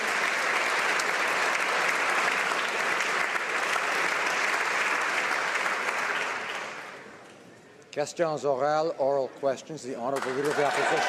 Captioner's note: some Applause